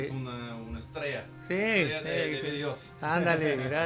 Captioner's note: speaking Spanish; speaking Mayan